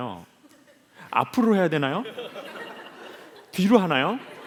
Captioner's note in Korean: 웃음